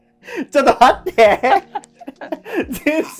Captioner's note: laughing